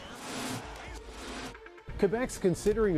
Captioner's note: cheers and Applause